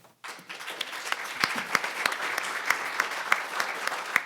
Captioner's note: audience applauding